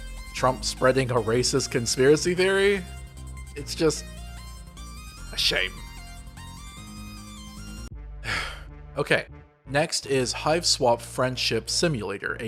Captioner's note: breath